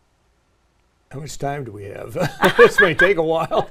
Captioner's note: laugh